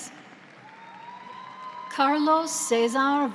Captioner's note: audience applauds